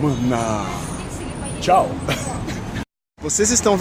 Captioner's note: laugh